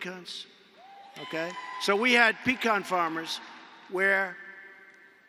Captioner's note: applause